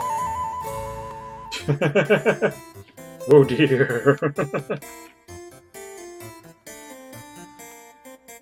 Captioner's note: laughing